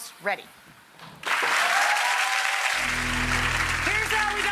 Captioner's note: audience applauds